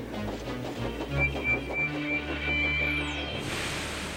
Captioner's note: whistles rapidly